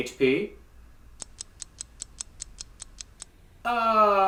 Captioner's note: ticking clock